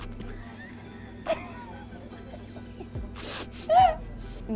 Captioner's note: giggling